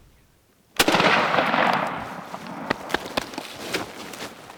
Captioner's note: shotgun fires